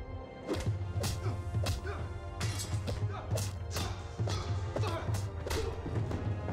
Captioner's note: grunts